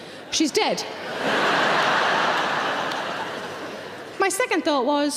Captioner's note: audience laughing